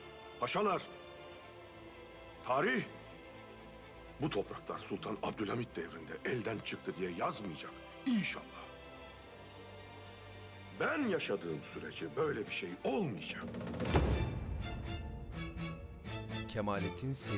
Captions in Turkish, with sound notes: Paşalar... ...tarih... ...bu topraklar Sultan Abdülhamid devrinde elden çıktı diye yazmayacak. İnşallah. Ben yaşadığım sürece böyle bir şey olmayacak. (Baston vurma sesi)